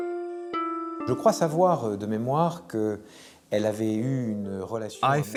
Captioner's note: speaking French